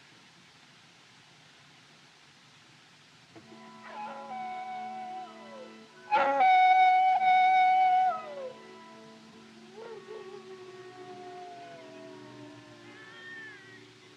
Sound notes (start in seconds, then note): 3.6 howling; 12.5 baby Crying